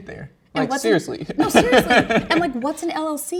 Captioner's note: laughs